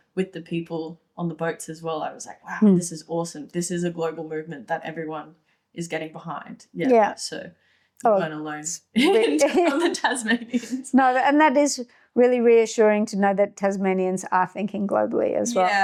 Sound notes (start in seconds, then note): 9.0 both laughing